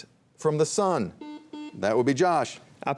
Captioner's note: buzzer buzzing